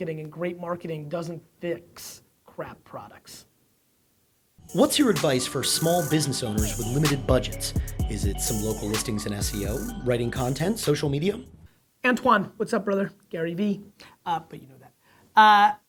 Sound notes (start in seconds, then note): 4.5 voiceover